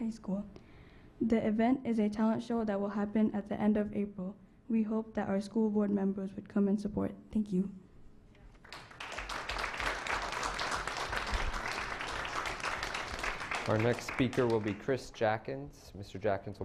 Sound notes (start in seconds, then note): 10.6 clapping